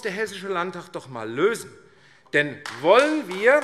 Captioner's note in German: Beifall AfD